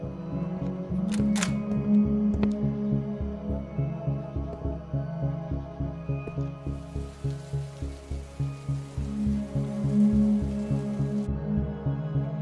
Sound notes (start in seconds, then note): 1.1 door opens